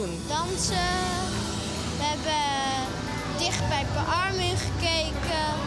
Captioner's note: speaking in foreign language